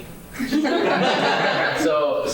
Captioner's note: laughing